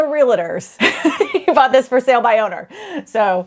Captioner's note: laughs